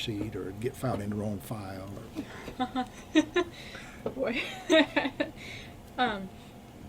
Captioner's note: BOTH laugh